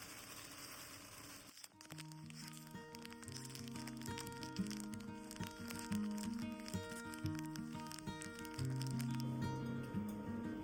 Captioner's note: boiling water